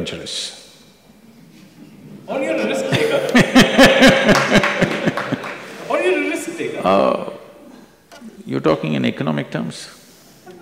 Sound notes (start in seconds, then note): 2.8 laughter